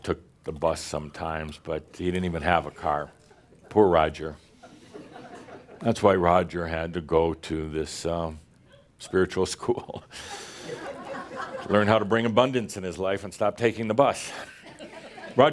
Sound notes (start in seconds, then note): 4.3 a few chuckles; 9.5 more chuckles